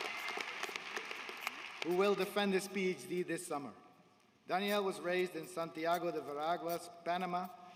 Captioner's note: applause